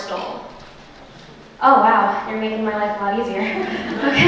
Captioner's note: laughter